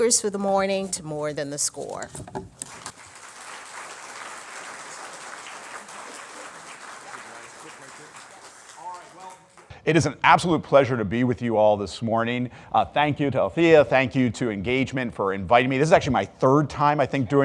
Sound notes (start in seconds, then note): 2.5 audience clapping